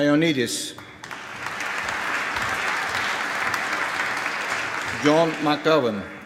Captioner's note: applause